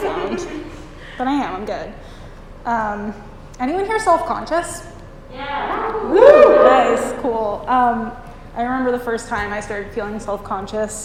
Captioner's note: cheers